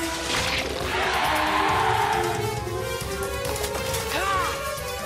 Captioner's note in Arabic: صراخ